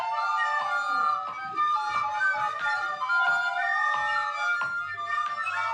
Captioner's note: audience giggles faintly